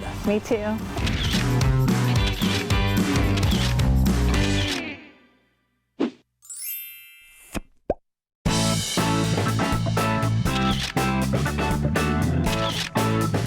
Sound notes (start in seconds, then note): 1.2 camera clicking; 1.4 upbeat music